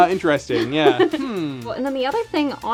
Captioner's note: laughter